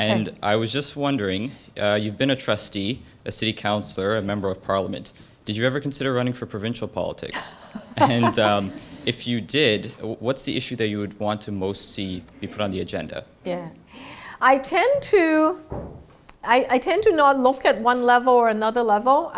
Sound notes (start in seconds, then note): 7.4 laugh